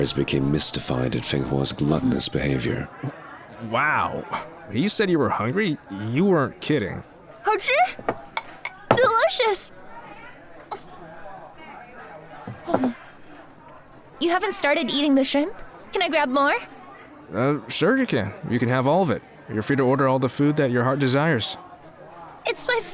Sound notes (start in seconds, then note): 7.7 in Mandarin; 10.6 eats